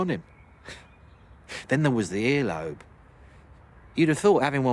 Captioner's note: he chuckles, softly